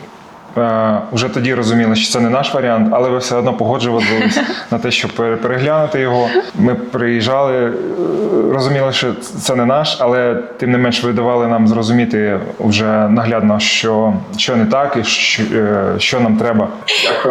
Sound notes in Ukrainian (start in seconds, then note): 4.0 сміх; 16.8 сміх